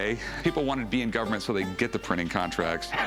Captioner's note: laughs